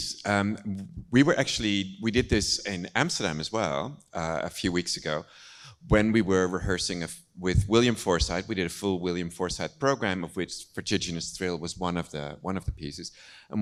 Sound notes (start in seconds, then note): none